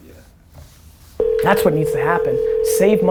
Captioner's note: phone ringing